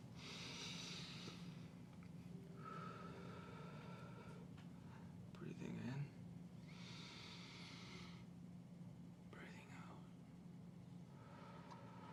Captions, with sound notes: [breathing sound] Breathing in. [Inhales] Breathing out. [Exhales]